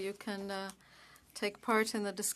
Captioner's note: speaking French